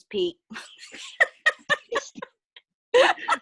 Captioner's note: laughing